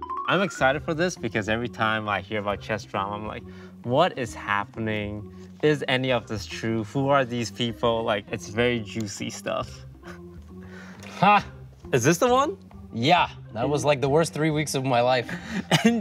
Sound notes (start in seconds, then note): 10.3 chuckles; 11.1 GothamChess exclaims